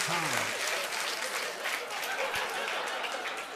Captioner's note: laughter